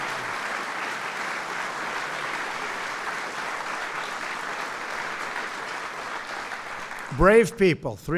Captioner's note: applause